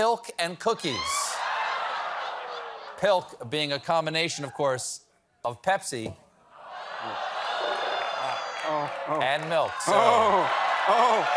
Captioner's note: laughter